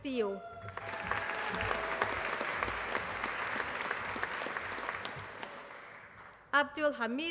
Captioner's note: applause